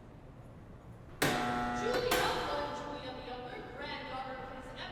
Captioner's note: buzzer